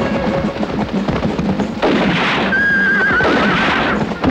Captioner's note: guns firing